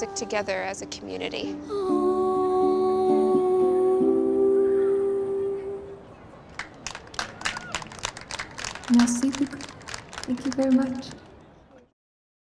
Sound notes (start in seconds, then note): 6.5 crowd applause